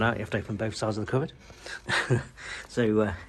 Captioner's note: chuckles